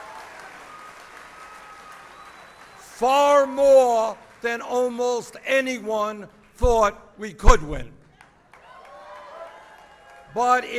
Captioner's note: applause